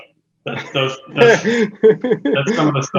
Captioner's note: laughs laud